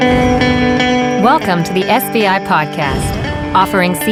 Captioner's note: upbeat music; voiceover